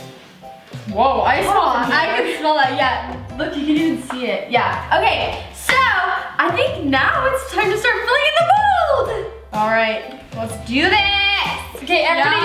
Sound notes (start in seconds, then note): none